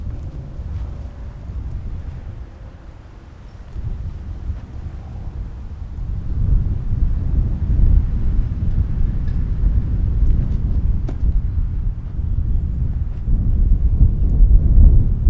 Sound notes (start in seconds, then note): 3.4 wind howling continues; 11.7 wind howling continues